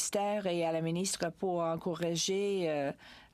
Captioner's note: speaking french